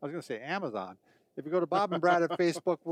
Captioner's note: laughing